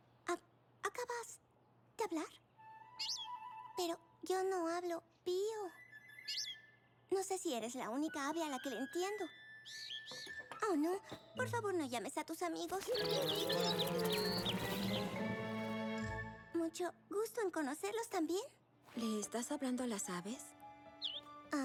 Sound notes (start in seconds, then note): 2.6 chirp; 5.7 chirp; 12.8 chirping